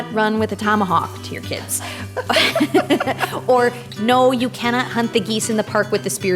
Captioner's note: both chuckling